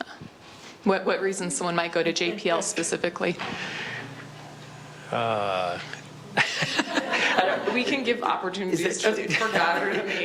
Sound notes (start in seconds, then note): 6.3 laughing